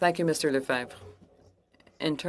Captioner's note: speaking French